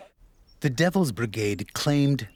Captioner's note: voiceover